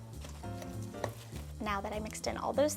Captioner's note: ingredients sloshing